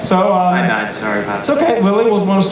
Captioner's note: voiceover